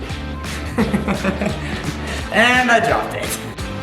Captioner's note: laughing